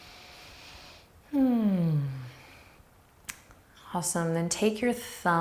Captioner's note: sighs deeply